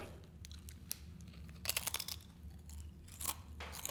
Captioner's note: crunching